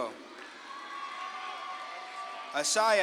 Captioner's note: audience claps and cheers